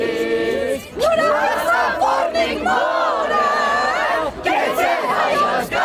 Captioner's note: loud chanting in Armenian